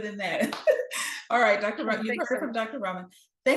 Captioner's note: laughing